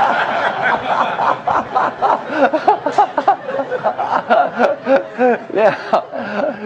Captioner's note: laugh